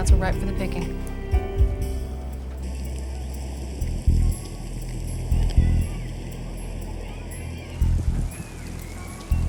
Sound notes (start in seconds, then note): 2.4 group chattering; 4.2 slow tempo suspenseful music